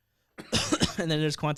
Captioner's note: coughing